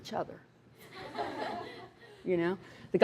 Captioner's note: laughter